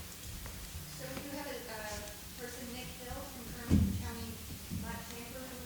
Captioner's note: speaking off mic